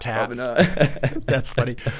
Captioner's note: laughing